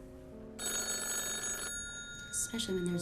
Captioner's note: phone ringing